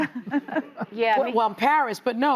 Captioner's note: laughing